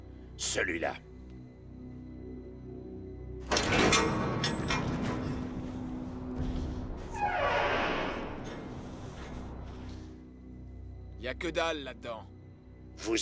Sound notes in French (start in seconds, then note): 3.5 claquement métallique; 6.9 la porte grince; 10.9 Esteban parlant en langue étrangère; 12.9 gangster parlant une langue étrangère